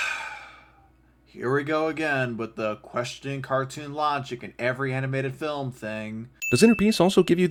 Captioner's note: sigh